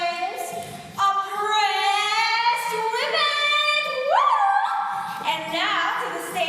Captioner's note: cheers